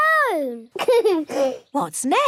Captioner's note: giggles